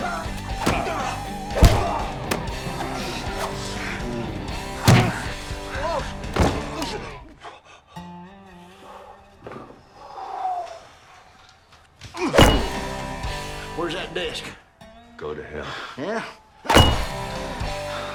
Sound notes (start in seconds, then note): 10.8 exhales